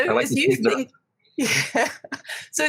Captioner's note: laughs